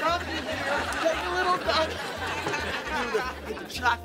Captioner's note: audience laughing